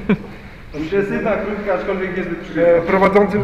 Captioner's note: laughs